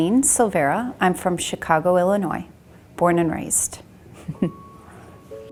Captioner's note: laughs